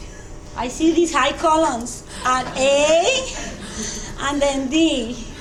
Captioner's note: students chuckling